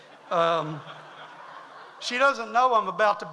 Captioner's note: audience laughs